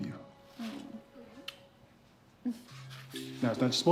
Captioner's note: kisses